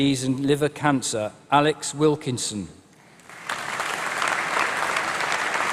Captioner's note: applause